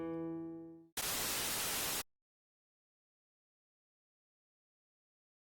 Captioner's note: white noise hissing